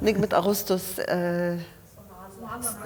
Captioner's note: speaking foreign language